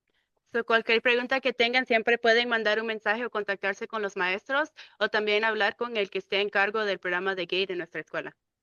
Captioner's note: speaking in Spanish